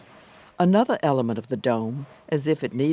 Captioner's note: voiceover